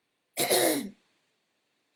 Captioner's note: clears throat